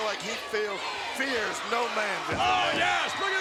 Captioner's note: audience chanting